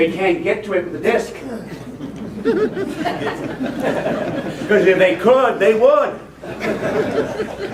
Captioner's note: laughter